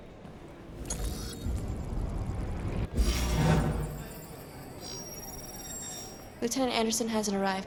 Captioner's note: beeping, trilling